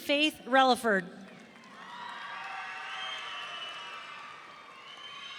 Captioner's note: audience cheering